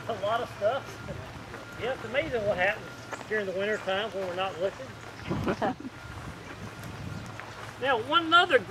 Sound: chuckles from audience

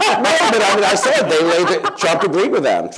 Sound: laughter

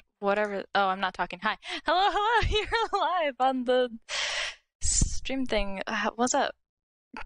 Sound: laughing; inhales

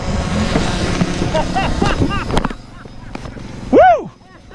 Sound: laughing

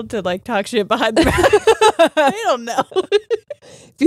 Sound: both laughing

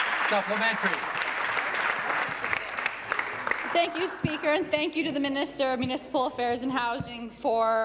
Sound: applause

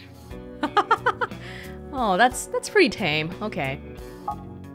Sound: chuckles

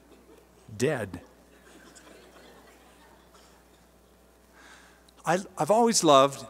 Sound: laughter

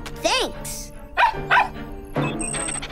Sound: barking

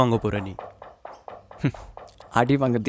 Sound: laughs

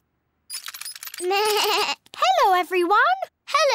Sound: bleats

